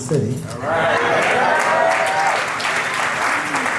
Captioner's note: crowd applauding